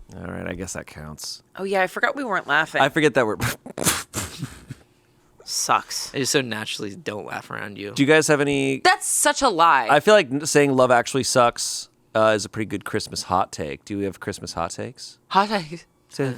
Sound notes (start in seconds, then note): 3.4 chuckles